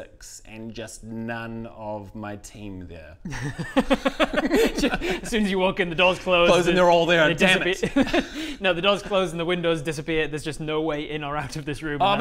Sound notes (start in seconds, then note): 3.2 harsh but fair giggles